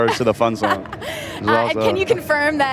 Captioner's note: laughs